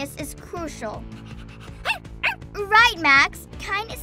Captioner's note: dog pants and barks